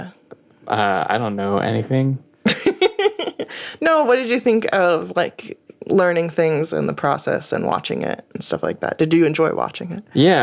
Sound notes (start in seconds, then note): 2.4 laughter